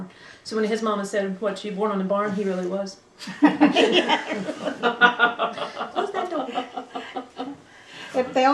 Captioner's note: laughter